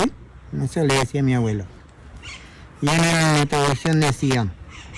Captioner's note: non-english speech